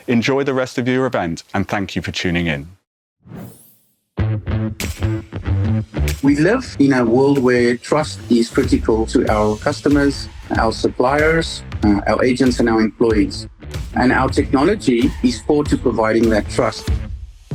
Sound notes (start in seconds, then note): 3.2 graphics whooshing; 4.2 upbeat music